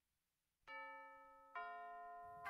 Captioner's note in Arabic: رنين جرس الباب